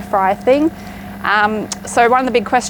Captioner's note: air fryer humming